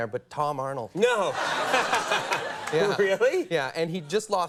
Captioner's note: laughs